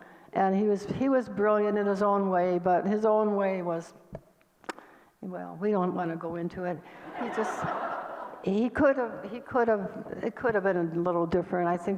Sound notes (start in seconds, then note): 7.0 audience laughter